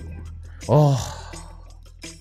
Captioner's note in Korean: 한숨